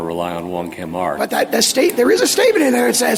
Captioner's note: laughter